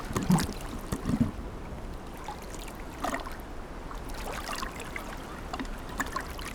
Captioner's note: water lightly splashing; water splashing; bubbles gurgling